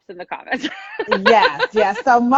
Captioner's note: laughing